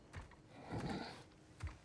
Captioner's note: grunt